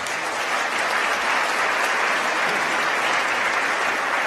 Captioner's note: applause